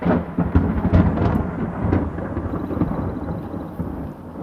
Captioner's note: thunder rumbles